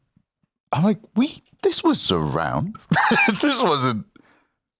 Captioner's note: laughs